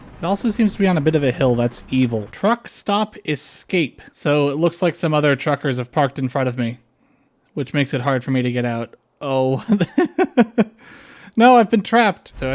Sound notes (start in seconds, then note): 9.6 laughter